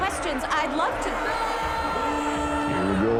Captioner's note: crowd booing, shouting